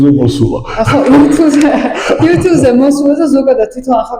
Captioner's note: laugh